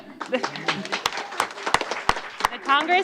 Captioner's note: applause